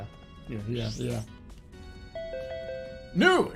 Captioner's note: mocking voice